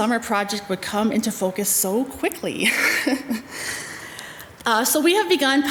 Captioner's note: chuckles